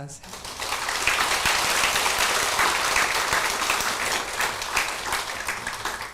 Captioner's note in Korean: 청중박수